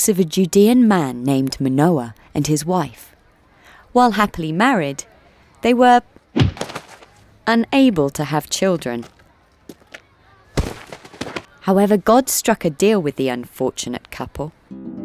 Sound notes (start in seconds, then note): 10.5 sack thudding